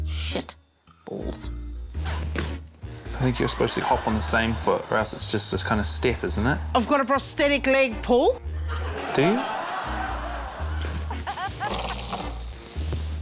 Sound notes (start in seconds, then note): 8.6 laughter; 11.1 quirky music